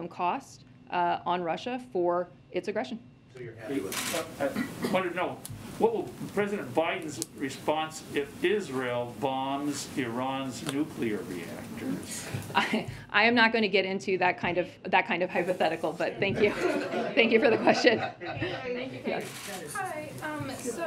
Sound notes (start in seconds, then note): 16.2 laughter